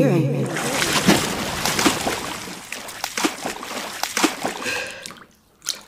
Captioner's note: frantic splashing as speaker and listener break apart